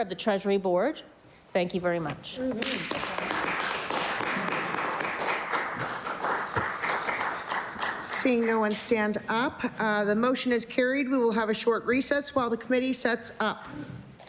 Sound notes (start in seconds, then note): 5.8 applause